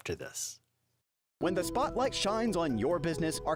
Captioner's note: voiceover